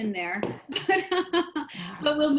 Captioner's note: laughs